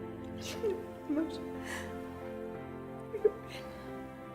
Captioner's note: mumbles and sobs